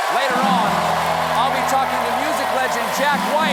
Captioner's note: cheers and applause